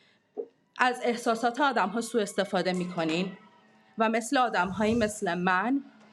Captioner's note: speaking in foreign language